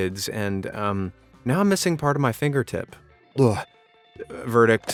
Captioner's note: retch